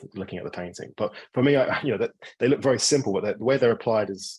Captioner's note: chuckling